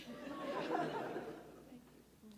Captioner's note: audience laughs